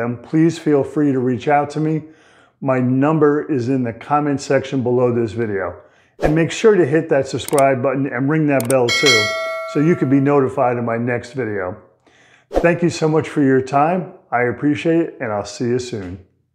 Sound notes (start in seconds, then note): 8.6 bell rings